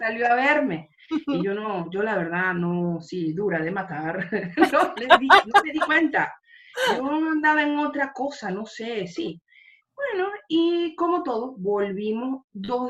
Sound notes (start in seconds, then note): 4.6 laughs